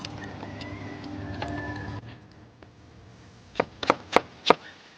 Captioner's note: chops quickly